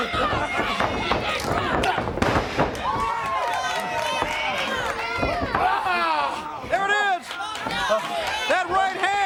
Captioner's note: crowd chatter; crowd cheering